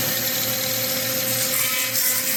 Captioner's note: buzzing